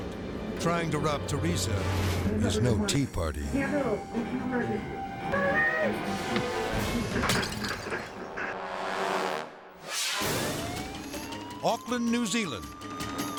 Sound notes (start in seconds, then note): 5.9 cup bangs; 7.0 tea cup cracks; 9.8 graphics whoosh; 10.1 siren blares; 11.0 intense music